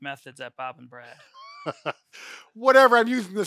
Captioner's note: chuckles